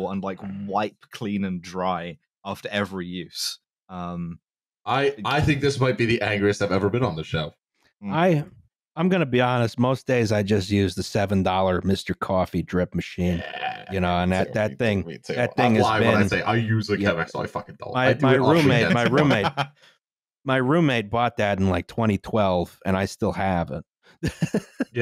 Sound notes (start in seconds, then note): 14.3 approving noises; 24.5 laughs